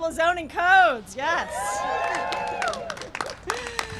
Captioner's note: cheering and applause